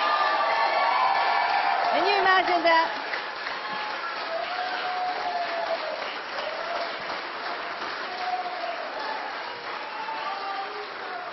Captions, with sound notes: POINT. THERE ARE STILL THREE PRECINCTS OUT THERE AND 1800 VOTES IS THE DIFFERENCE. CAN YOU IMAGINE THAT? [CROWD CHEERING] CAN YOU IMAGINE THAT? [APPLAUSE]